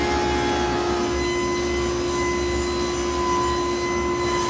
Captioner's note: saw whirring